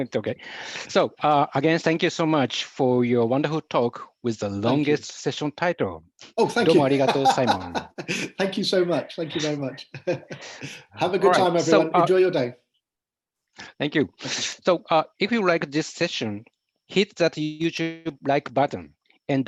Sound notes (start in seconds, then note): 6.9 japanese